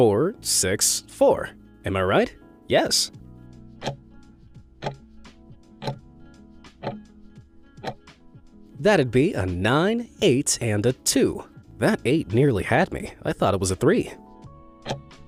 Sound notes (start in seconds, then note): 4.8 timer ticking; 14.8 timer ticking